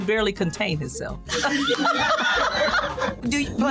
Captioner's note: laughing